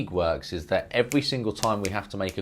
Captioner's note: fingers snapping